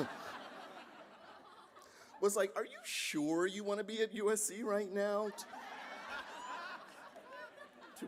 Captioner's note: laughter